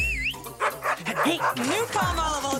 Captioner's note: whistles; dogs barking